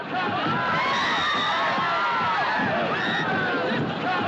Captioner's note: Gritos continuam